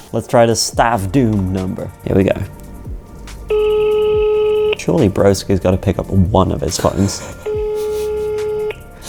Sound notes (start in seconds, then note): 3.4 phone rings